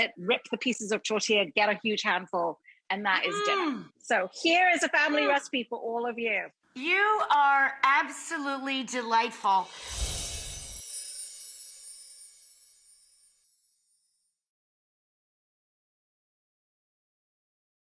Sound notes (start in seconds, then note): 9.6 air whooshes; 9.7 wind chime music